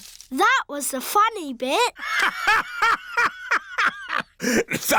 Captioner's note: laughs